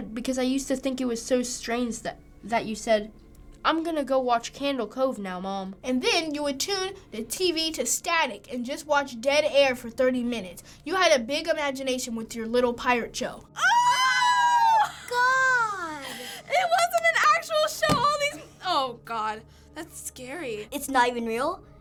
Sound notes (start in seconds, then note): 13.5 both squealing